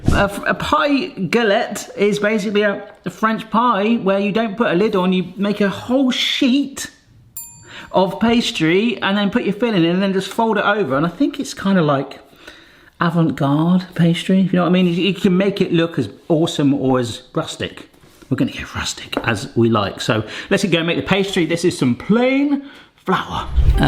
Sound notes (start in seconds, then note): 7.4 wink pings